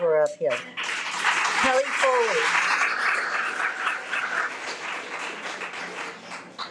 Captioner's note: audience clapping